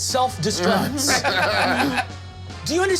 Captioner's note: group laughing